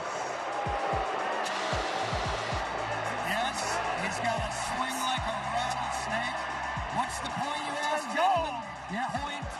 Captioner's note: booing